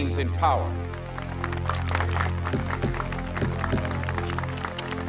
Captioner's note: applause